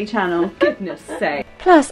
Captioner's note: laughs